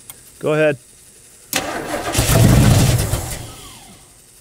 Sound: engine straining

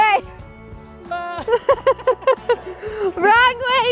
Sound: laughing

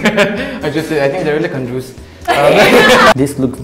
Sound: laughs

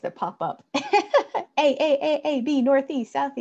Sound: laughs

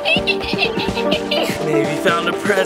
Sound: making beeping noises

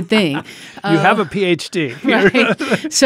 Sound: chuckles

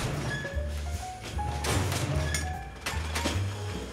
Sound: pulleys squeaking

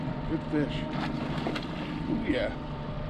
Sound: fish splashing

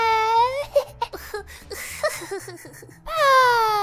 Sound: laughter

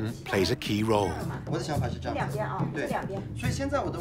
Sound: speaking Tibetan

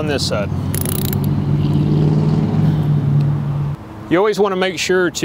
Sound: tightening bolt

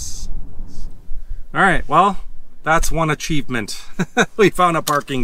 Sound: laughs

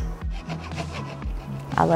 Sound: wood scratching

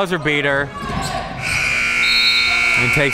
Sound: buzzer sounding

